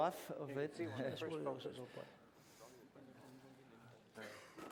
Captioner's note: non-english speech